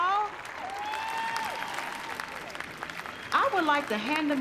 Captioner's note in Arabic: هتاف، تصفيق